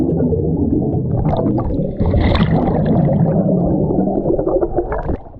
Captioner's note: water gurgling continues